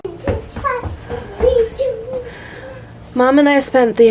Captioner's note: excited children noises